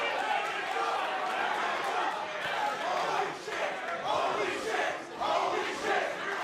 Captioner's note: cheers and applause; fans chanting